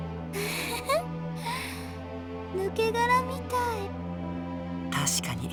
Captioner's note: chuckle